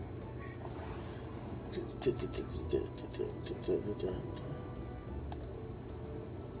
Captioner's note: making little musical-like sounds